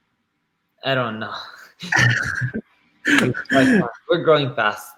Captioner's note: both laughing